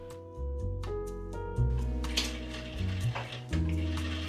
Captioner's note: sewing sounds from across the room